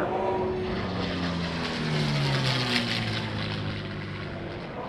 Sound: plane engine roaring

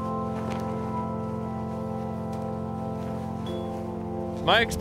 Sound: flags whipping in wind

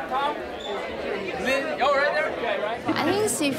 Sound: crowd buzzing

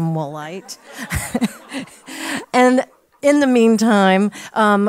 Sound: laugh

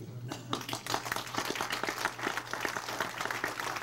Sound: crowd applauds

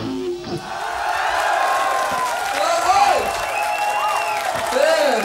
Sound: audience applauds

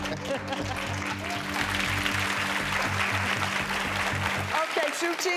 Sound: audience applauds

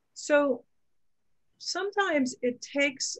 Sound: none

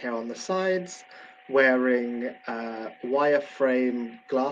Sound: none

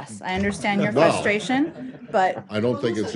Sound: laughter

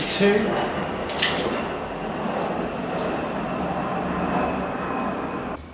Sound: jet aeroplane whistles

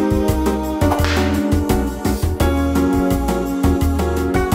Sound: whip cracking

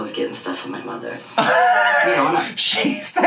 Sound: laughs

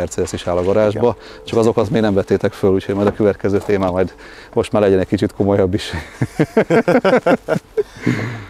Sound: both chuckle

